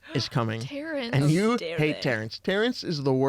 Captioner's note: gasp